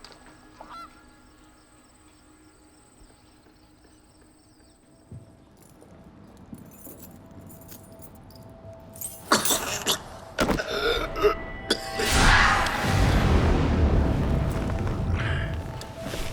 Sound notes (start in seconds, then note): 9.6 gasping